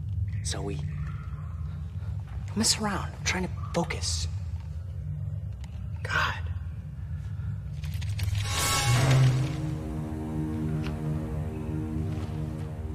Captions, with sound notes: Zoe? Quit messing around! I'm trying to focus. God! [scuttling] [dramatic music]